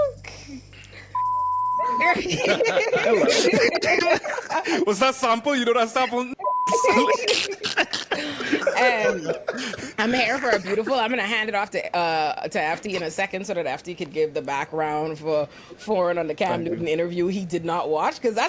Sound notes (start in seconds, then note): 1.1 beep; 1.8 laughing; 6.4 beep; 6.8 laughing